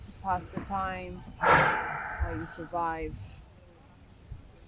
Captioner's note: sighing